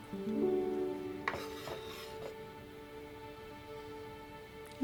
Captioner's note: knife scraping